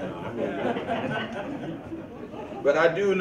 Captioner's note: audience chuckles